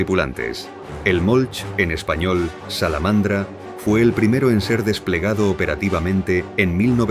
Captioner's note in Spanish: en español, Salamandra